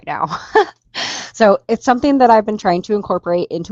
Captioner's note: laughs